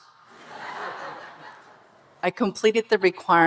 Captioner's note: audience laughing